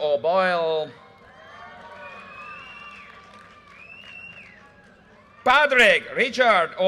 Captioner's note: audience cheers and applause